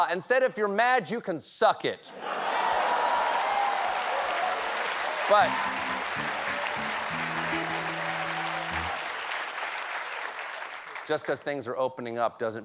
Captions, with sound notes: 'IF YOU'RE MAD YOU CAN SUCK IT.'" ( LAUGHTER ) ( APPLAUSE ) BUT... BUT JUST BECAUSE THINGS ARE OPENING UP DOESN'T MEAN COVID